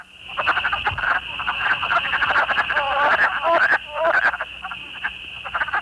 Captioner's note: wood frog call